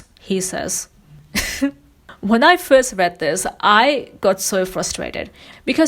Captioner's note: laughs